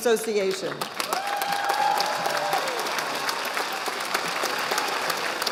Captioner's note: audience applauding